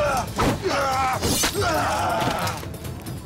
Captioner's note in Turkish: Uranos bağırıyor